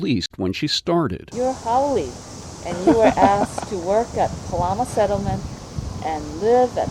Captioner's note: EP laughs